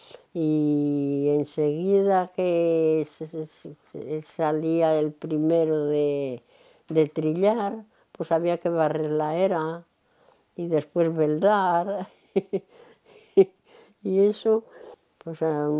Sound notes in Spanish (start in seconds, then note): 12.1 Ríe